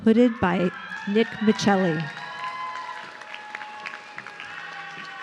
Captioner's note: audience cheering